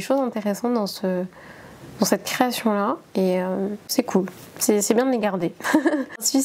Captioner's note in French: rires